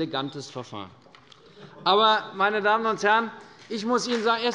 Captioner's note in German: Beifall bei Abgeordneten der FDP